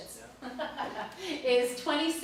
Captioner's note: laughs